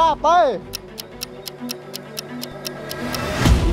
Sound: clock ticking

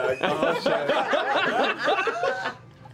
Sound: laughter

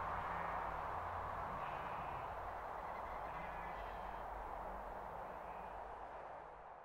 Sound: sheeps bleat

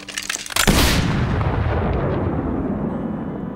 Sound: gunshot

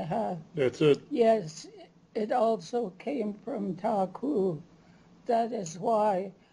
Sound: non-english; non-english

